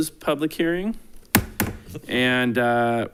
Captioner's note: gavel bangs